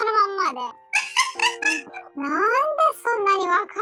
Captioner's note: laughs